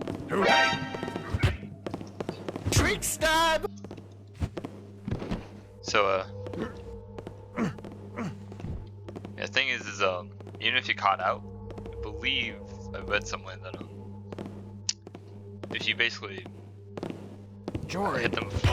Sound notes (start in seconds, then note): 0.3 Loud MGS alert noise; 2.6 Blackjack thuds; 7.5 Garrett grunts repeatedly